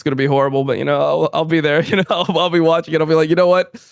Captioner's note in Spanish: risas